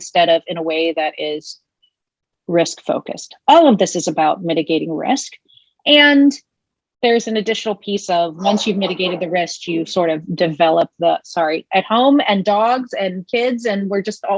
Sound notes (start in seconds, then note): 8.4 dog barking